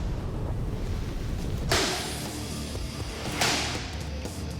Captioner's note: metal striking